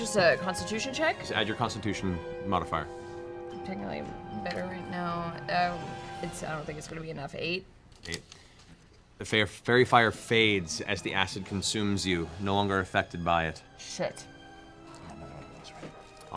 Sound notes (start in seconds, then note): none